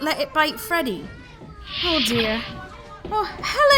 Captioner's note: door opens